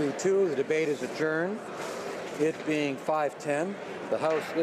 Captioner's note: none